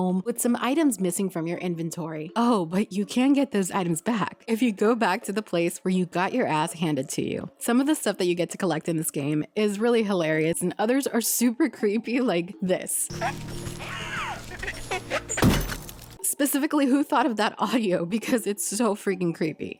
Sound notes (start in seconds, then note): 13.1 laughing and baby noises